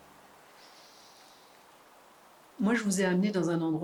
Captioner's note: forest soundscape